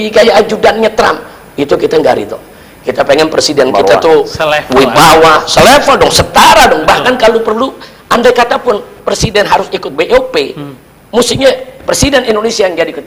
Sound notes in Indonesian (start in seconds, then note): 6.5 tertawa